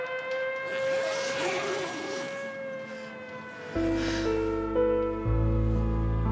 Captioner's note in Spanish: ruido al abrir el zipper